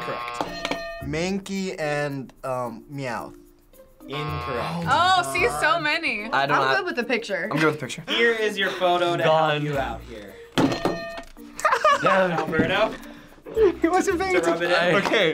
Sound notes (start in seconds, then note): 11.0 sighing; 11.5 laughing